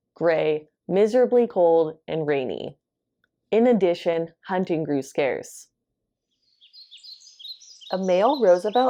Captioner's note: birds and crickets chirping in background